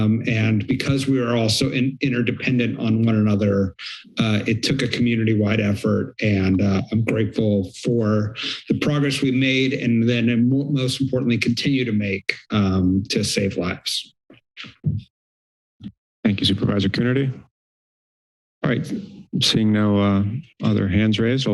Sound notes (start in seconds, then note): 14.1 silence